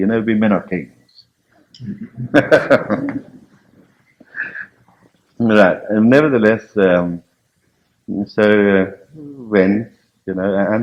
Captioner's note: laughs